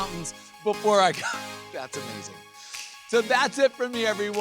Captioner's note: chuckles